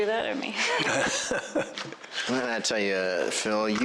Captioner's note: laughter